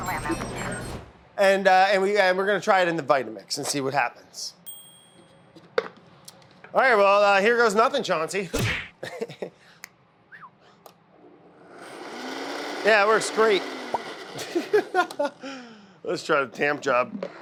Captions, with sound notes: and, we we're going to try it in the Vitamix and see what happens. Alright. Well, here goes nothing Chauncey. [grinding sound] Yeah, it works great. [laughs] Let's try the tamp job.